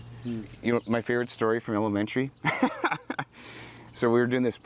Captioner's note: laughs